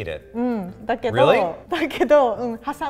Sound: speaks in foreign language

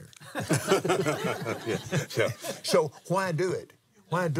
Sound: laughs

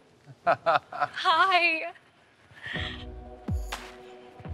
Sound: laughs

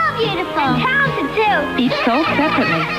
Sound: laughter

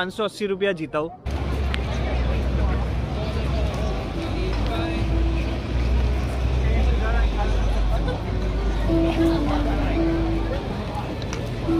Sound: sound from the streets

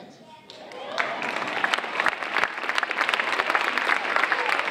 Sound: audience applauding

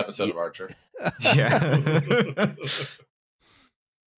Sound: laughter

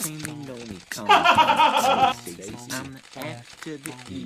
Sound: laughing

